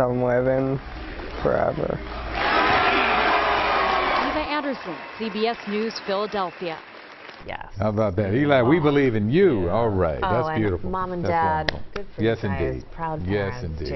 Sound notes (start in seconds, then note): 6.6 cheers and applause